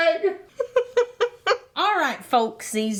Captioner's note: laughing